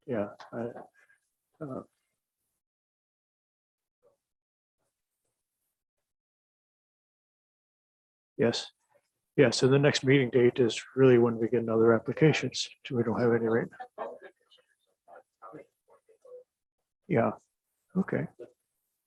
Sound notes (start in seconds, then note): 14.0 indistinct chatting